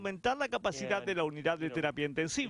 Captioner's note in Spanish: habla en ingés